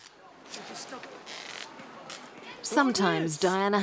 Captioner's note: chattering